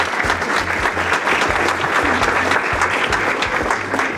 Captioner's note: audience clapping